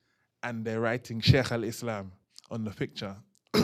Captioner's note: non-english